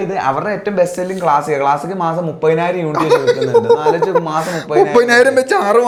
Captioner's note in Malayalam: പൊട്ടിച്ചിരി